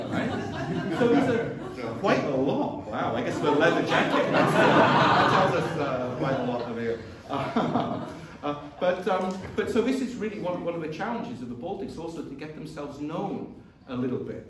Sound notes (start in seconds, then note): 3.1 laughter